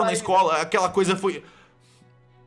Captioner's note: deep breathing